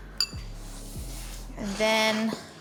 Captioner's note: spoon clacks